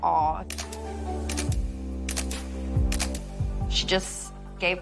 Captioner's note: camera shutter clicking